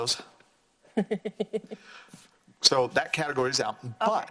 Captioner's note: laughs